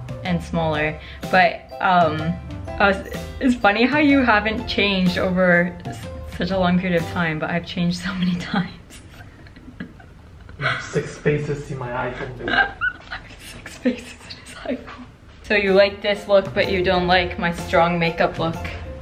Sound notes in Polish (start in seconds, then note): 8.8 się śmieje